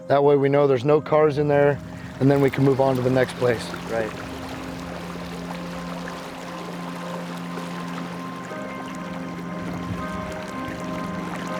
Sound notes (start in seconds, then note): 5.0 water flowing gently; 8.5 suspenseful music